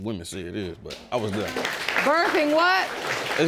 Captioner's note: audience applauds